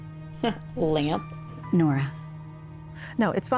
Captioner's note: scoffs